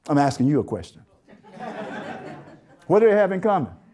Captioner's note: audience Laughter